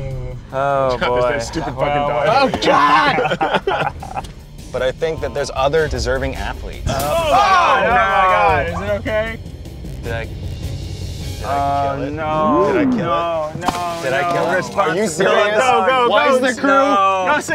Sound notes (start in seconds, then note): 2.6 screaming; 3.8 laughing; 6.9 screaming; 14.0 yelling